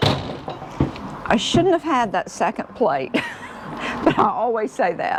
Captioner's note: chuckles